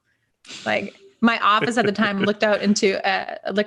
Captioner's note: laughing softly